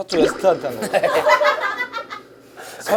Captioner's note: laughing